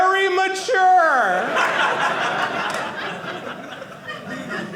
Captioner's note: audience laughing